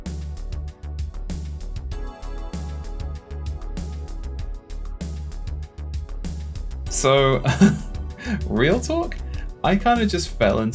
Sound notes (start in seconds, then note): 7.4 nervous chuckle